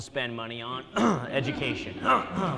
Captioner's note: clearing throat; audience laughing